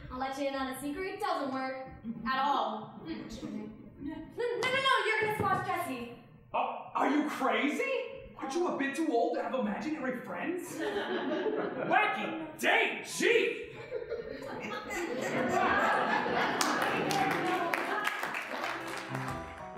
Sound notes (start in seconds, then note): 3.4 audience chuckling; 10.7 audience laughing; 13.6 audience laughing; 16.5 applause; 18.8 brassy jazz music